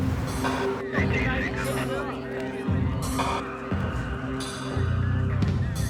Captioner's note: moody atmospheric music; muffled radio chatter